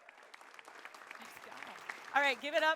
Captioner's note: attendees clapping